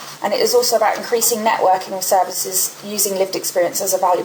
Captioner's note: none